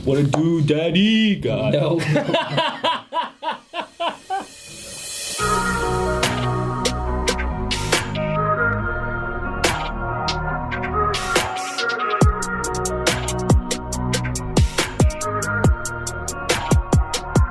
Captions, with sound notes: - What it do, Daddy? God. - Oh. (laughing) (gentle music)